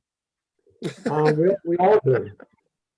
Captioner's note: laughs